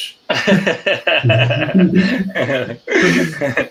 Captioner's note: all laughing